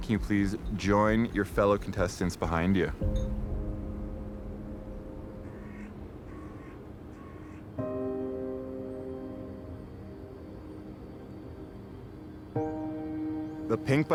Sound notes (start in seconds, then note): none